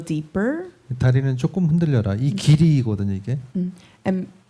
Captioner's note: speaking korean